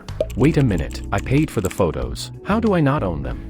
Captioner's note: voiceover